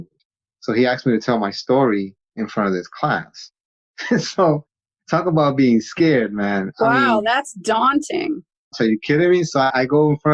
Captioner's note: laughs